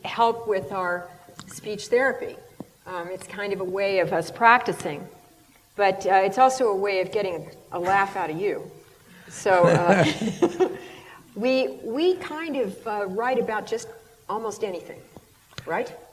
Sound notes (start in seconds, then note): 9.6 laughter